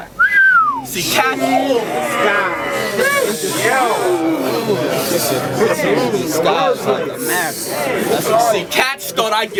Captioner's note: crowd Reaction